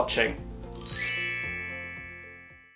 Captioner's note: chimes